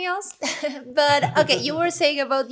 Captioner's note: laughing